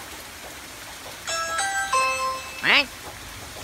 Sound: doorbell ringing

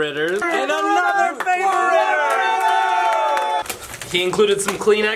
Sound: applause

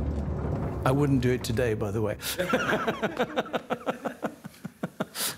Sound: laughs

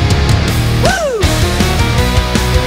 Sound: nature boy noises

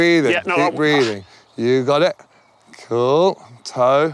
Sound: groans shakily; pants

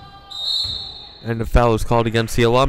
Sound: whistle blowing

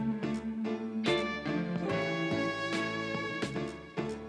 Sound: none

